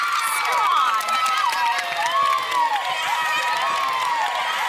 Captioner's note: cheerleaders cheering